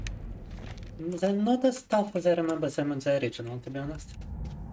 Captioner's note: speaking in Russian